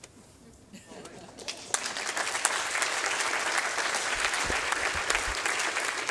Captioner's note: applause